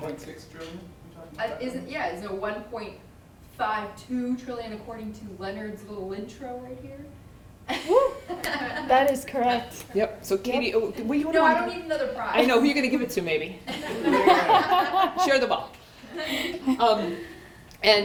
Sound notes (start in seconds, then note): 13.7 laughter